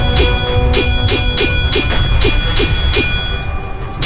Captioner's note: swords clanging